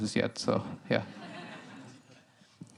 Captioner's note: laughter